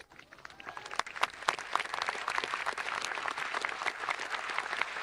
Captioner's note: audience applauding